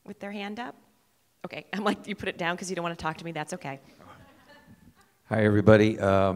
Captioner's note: laughter